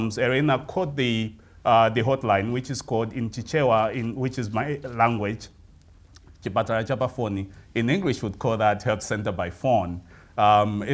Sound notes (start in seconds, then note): 5.1 speaking in foreign language